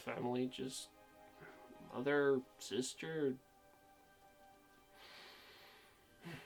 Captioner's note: sighs